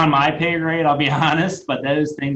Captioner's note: laughing